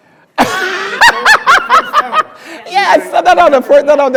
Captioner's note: speaker laughing